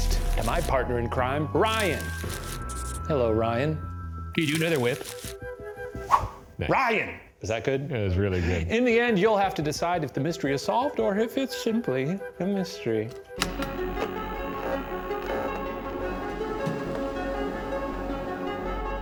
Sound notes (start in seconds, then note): 6.0 baton whooshes; 13.4 mysterious music